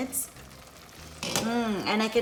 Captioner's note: simmering